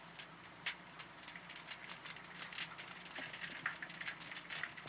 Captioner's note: fire crackling